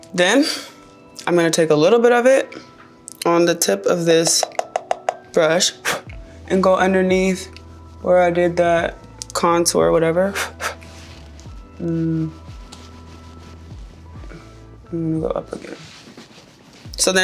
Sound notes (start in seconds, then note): 4.2 brush tapping; 5.7 blowing; 10.2 blowing